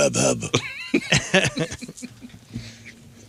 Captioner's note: laughing